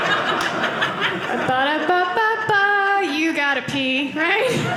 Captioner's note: audience laughing; hums McDonald's theme song